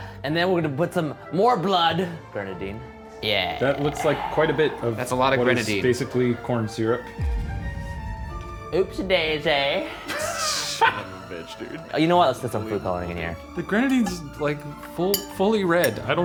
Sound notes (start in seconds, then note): 10.0 laughing